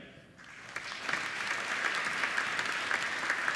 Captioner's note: applauding